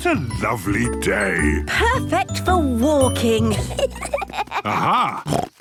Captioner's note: children giggling; snorts